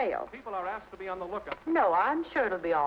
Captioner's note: radio Announcer